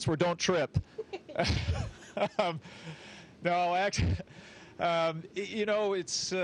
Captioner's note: laughter